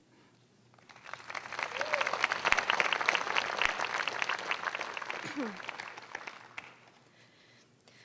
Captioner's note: clapping